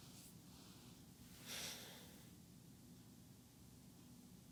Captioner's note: sighs